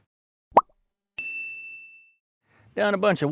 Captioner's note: ding